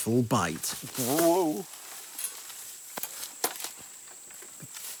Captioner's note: bugs chirping